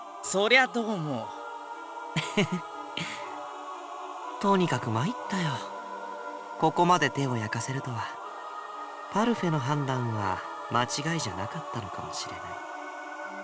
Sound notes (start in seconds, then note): 2.2 chuckle